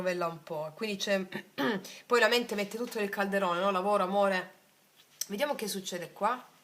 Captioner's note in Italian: schiarire la voce